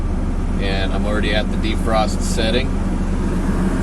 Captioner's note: fan humming